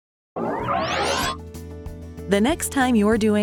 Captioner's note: circuit whistles